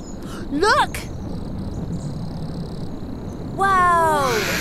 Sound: rocket roars

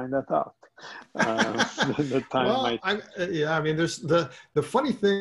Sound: laughs

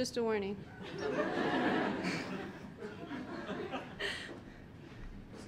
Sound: audience laughing

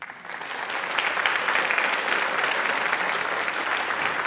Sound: audience applauds

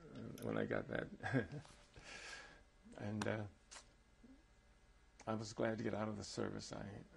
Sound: laughs

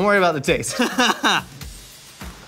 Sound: laughing

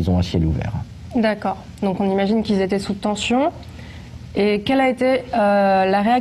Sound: speaks in a foreign language

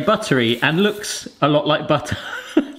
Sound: laughs

